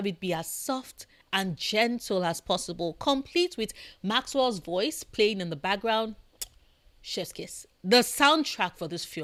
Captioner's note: chef’s kiss